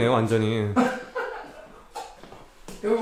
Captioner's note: chuckles